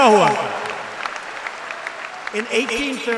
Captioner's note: applause